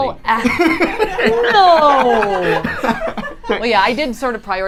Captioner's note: both laughing